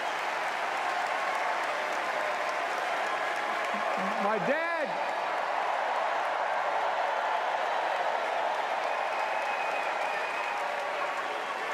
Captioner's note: cheers and applause